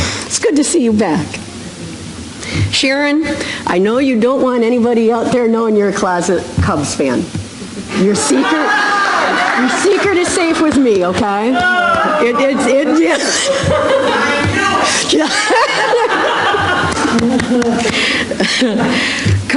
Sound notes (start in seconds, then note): 8.7 laughter; 11.5 audience member yells, 'I knew it!'